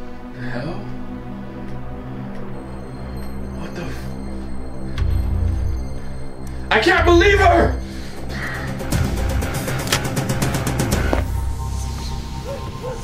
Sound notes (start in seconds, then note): 9.8 gun clacking; 11.8 dogs barking outside